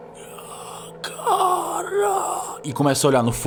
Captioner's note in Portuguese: gemidos